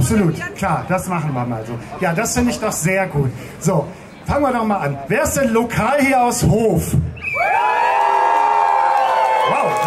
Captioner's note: cheers